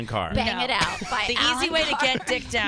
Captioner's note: laughing